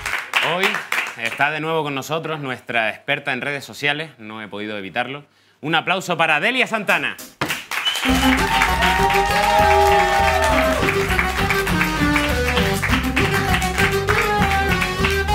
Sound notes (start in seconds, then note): 7.9 cheers